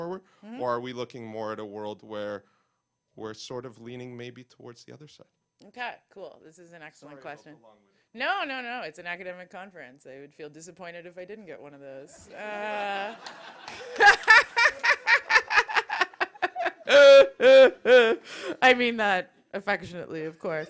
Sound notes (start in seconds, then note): 12.1 laughter